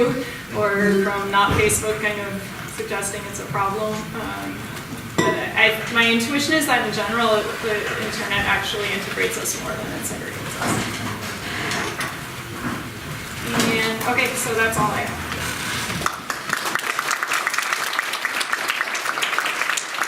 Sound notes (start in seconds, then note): 15.9 audience applauding